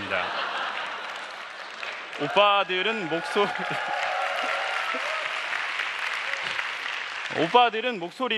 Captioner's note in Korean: 웃음